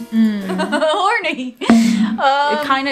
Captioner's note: laughs